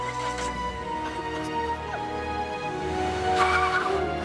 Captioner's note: dramatic music swells; police car starts